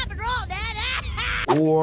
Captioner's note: laughs